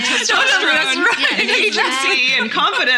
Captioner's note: laughing